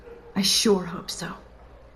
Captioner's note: none